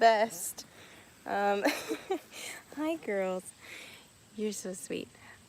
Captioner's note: laughing